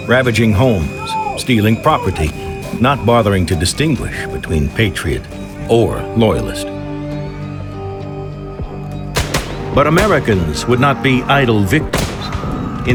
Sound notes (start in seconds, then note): 9.1 dramatic music; 9.1 gunfire